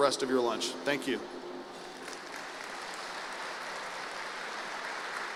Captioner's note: applause